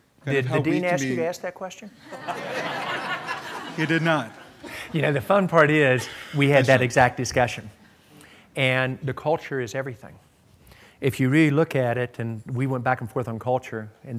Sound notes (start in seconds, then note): 2.0 laughter